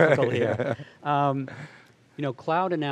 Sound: laughs

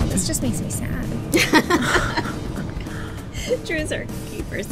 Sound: laughing

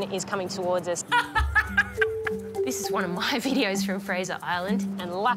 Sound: laughs

